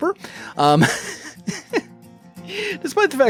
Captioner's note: mixed with Laughter